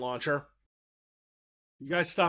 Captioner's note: dead silence